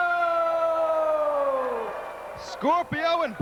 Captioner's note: crowd cheering